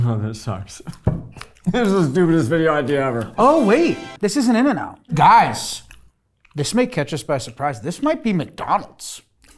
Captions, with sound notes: - Oh, this sucks. This is the stupidest video idea ever. (chuckling) - Oh wait. (grand music) This isn't In-N-Out. Guys, this may catch us by surprise. This might be McDonald's.